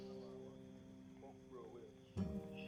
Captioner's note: man talking outside